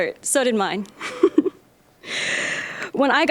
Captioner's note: chuckling